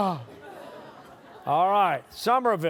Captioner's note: sighs; audience chuckles